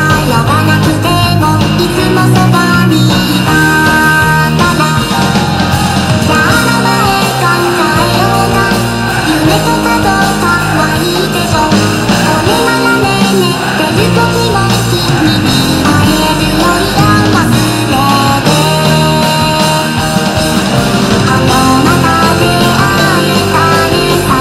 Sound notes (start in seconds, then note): 19.0 laughs